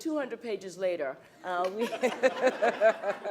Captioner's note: laughs